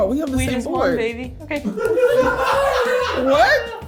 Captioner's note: cast laughing